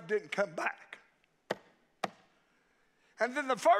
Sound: hand tapping

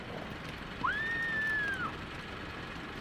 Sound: distant scream

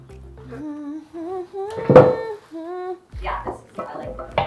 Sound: humming

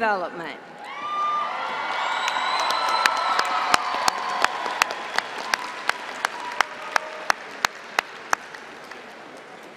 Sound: cheering

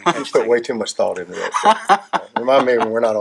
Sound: laughing

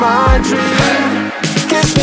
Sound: crowd

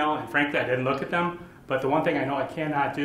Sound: none

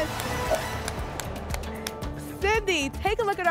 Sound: clapping

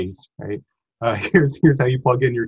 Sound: laughs

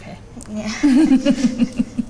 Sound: laughing

